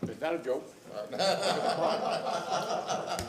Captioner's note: laughter